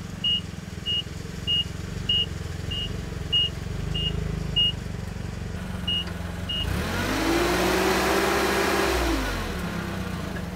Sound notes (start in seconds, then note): 6.6 motor revving